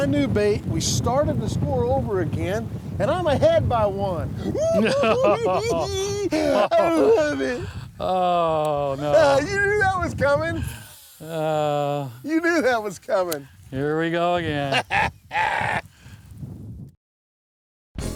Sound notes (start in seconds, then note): 4.8 cackling; 14.6 chuckles